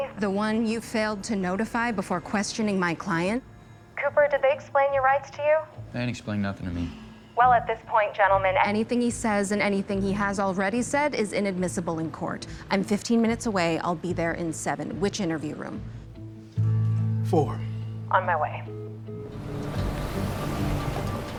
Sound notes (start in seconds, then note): 7.5 on phone; 18.1 on phone; 19.1 engine rumbles